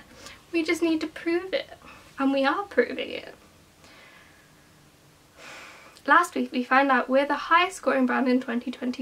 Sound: sigh

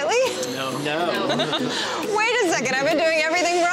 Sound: laughter

